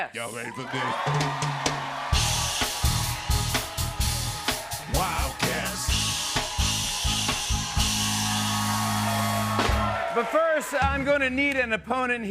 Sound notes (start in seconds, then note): 1.6 cheers and applause